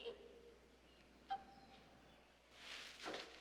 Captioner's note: sobbing